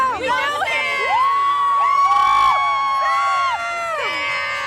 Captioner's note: fans screaming